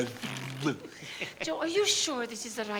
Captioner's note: spluttering playfully